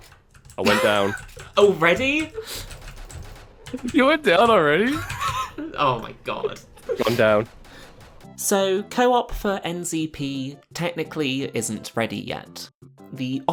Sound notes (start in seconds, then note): 4.8 laughing